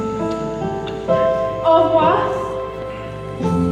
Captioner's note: sad piano music; speaking French